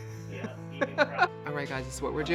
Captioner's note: laughs